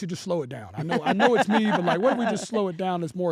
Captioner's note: laugh